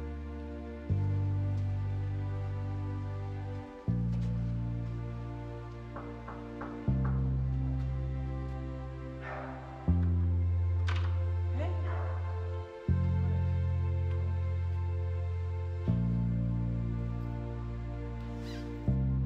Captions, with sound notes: [sad music continues] [knocking] Hey, surprise